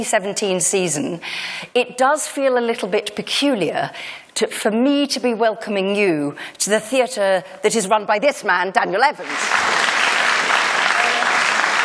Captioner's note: applause